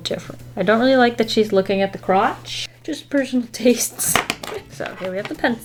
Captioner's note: laughs